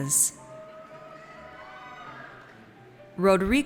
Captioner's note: audience cheers